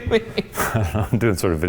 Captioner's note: laughs